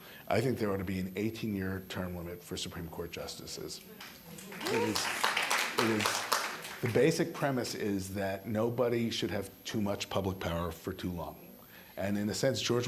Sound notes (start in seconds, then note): 3.9 applause